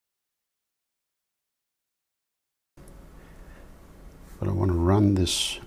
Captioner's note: silence